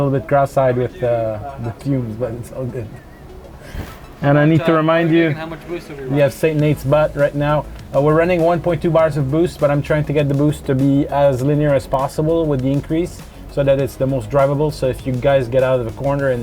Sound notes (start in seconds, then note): 4.4 chuckles